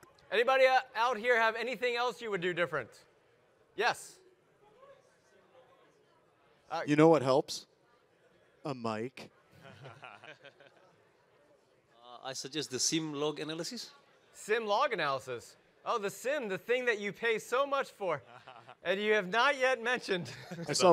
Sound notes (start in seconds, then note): 9.6 audience laugh